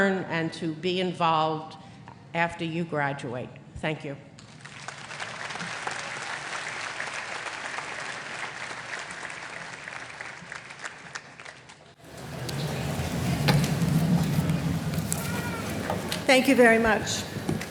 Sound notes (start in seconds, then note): 4.4 applause